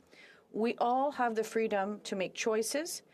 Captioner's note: speaking French